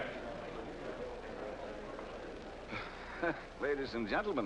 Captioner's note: audience murmurs